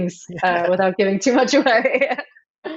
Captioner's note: laughing; laughs